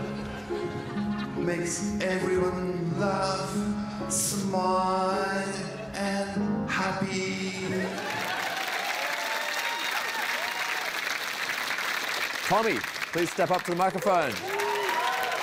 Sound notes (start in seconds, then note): 7.6 cheering, applause